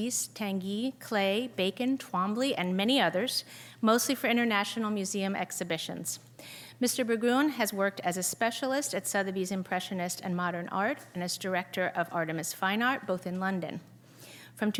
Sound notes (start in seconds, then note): none